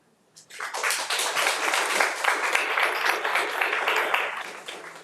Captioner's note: audience applauding